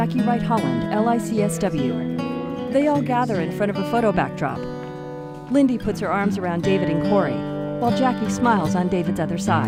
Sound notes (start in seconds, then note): 1.7 speaking faintly